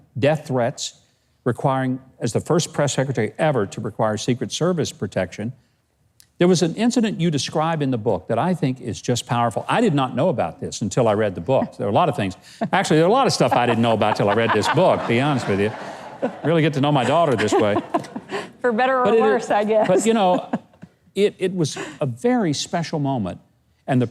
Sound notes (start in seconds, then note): 13.4 laughing